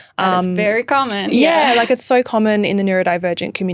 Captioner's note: laughing